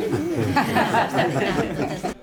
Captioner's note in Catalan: les participants riuen